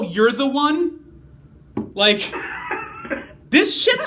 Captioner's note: laughing